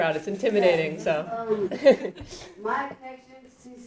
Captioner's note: laughing